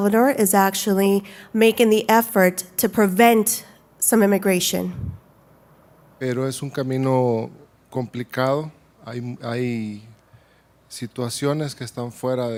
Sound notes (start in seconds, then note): 6.1 speaking Spanish